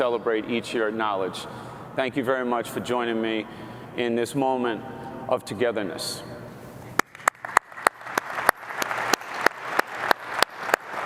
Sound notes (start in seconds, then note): 7.0 applause